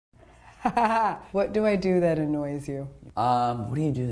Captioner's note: laughing